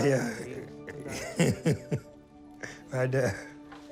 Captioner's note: laughs